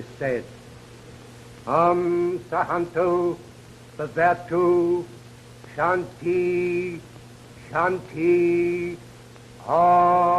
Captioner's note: foreign language